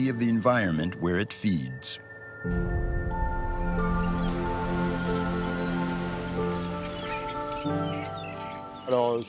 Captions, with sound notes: of the environment where it feeds. (birds chirping) (water splashing)